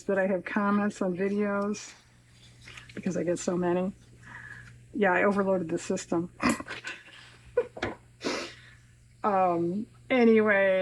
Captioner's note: laughs